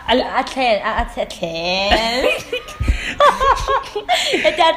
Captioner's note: laughs